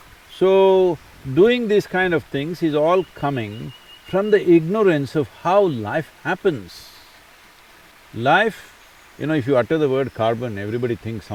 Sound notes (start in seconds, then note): none